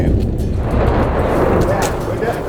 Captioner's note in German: Detonation